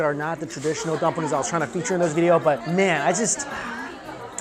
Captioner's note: sighs